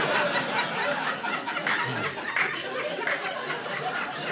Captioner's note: laughter